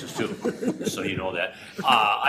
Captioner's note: laughter